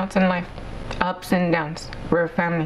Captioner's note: speaking spanish